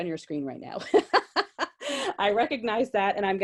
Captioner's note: laughs gently